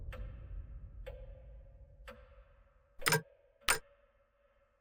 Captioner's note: clock ticking continues